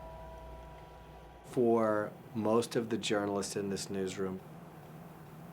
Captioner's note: bell tolling